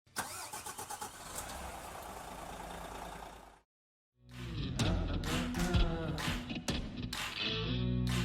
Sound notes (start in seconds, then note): 0.1 engine starting; 4.3 rock music